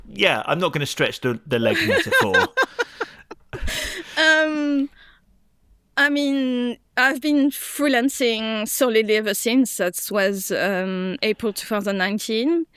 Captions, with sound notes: Yeah, I'm not going to stretch the leg metaphor. [laughs] I've been freelancing solidly ever since. That was April 2019.